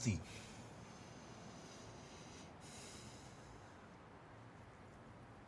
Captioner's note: Maria breathes deeply